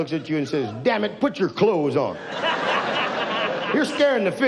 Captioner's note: audience laughs